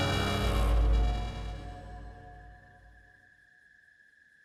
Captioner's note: crickets Chirping